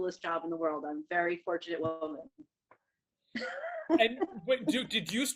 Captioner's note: laughs